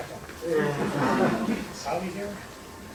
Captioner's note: laughter